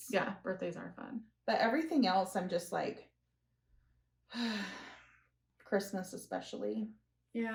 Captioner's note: sigh